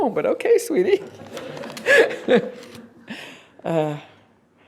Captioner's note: laughter